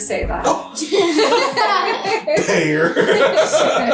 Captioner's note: laughing